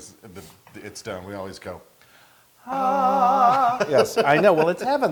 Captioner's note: laugh